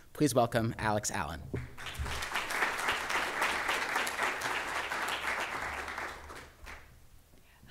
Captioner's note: applause